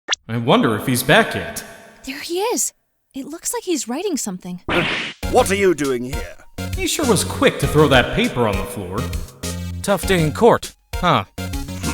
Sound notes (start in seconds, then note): 2.2 whispering